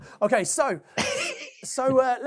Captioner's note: laughing